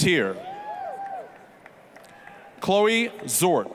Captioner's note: applause, cheering